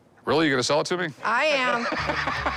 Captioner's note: laughs